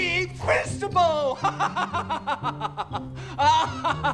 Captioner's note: laughing